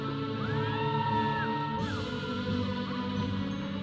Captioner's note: audience cheering; processional music